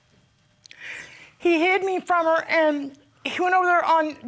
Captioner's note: sniffles